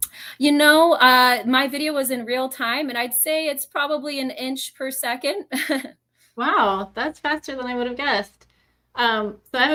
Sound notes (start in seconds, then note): 5.4 laughs